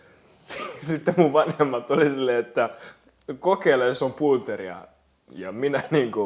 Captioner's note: laughs